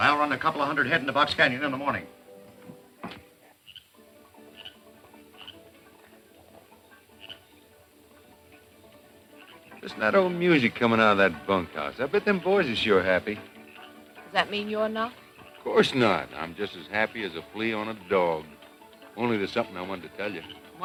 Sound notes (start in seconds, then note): 3.9 distant music playing; 3.9 frog croaking